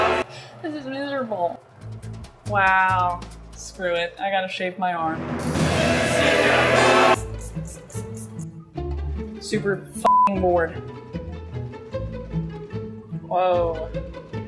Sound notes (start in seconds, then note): 4.8 intense music; 10.0 beep